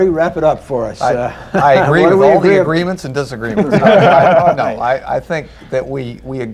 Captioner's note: laughter